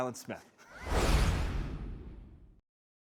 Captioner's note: logo swoosh